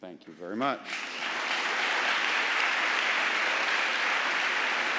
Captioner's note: audience applauding